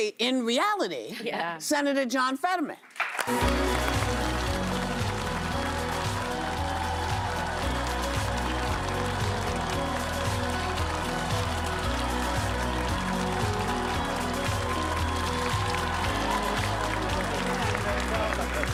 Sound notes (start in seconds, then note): 7.0 cheers and applause